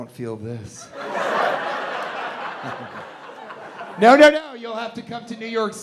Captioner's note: audience laughing